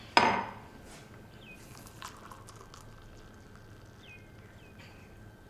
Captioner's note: water whooshing